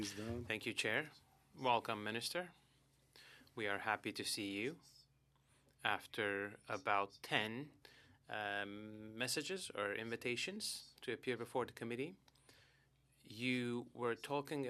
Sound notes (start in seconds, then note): 5.6 speaking French